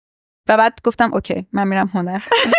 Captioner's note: laughs